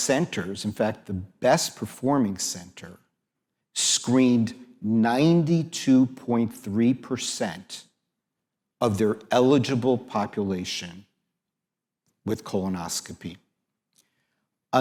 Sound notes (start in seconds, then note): none